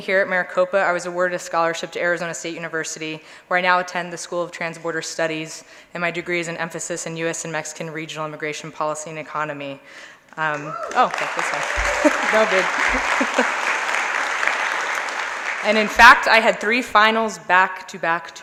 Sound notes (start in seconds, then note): 10.5 applause